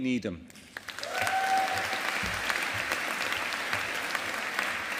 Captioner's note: audience applauding